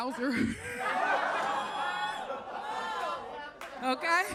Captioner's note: audience laughs